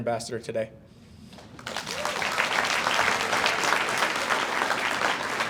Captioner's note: audience applauds